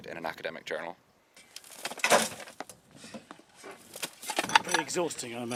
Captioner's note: sound of shovelling